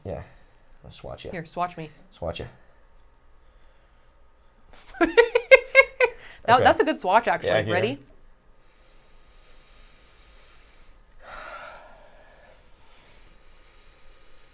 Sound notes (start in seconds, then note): 4.8 laughs; 9.0 both sniff